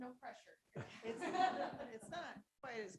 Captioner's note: audience laughs